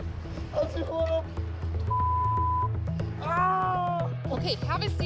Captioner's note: screams